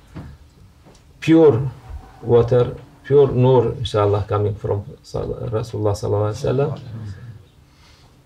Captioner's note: saws